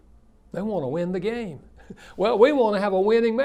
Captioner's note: chuckles